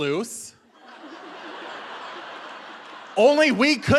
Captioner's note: audience laughing